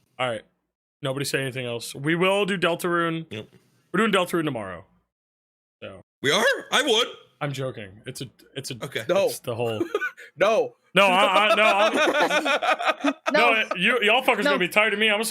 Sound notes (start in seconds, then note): 11.0 laughs